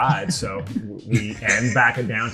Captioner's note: laughter